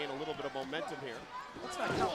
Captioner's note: crowd cheering